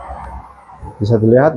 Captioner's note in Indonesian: printing